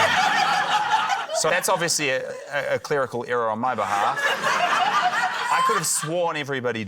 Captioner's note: laughter